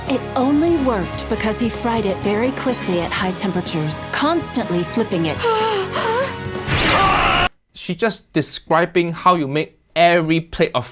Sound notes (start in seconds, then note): 5.4 judges shout